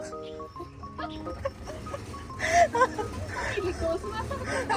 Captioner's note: laughter